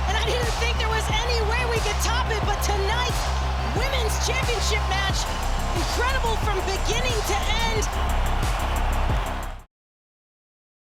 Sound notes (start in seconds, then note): 8.0 crowd applauds; 8.0 crowd cheering